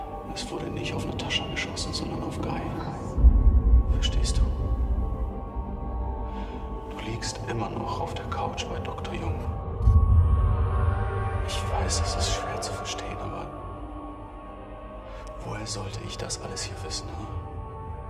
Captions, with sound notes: And it wasn't Natascha .. Gai has been shot. (whispering) What? Do you understand? You are still with Dr. Jung. On his couch. It's hard to believe, I know. But how could I possibly know all this?